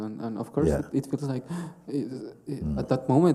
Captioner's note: gasps